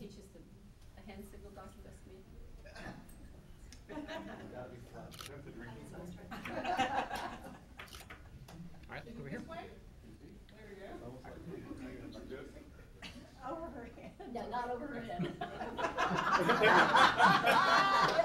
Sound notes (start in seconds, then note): 7.8 camera clicking; 15.2 laughing